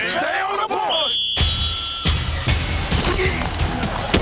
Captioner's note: whistle blows